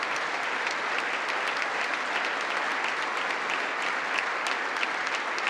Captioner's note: congress applauding